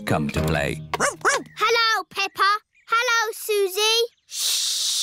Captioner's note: barks